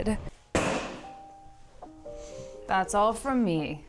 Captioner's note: bag thuds